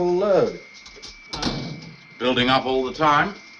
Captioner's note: door banging